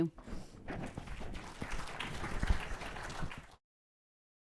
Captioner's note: audience applauds